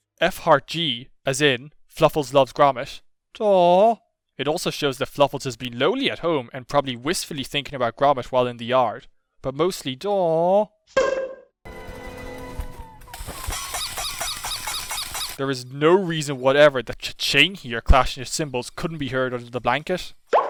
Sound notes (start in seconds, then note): 12.8 whimpering; 13.5 clashing